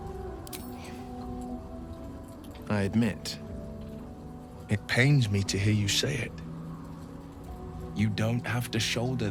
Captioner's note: sighs